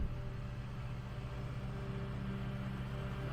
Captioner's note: artillery blast; drone engine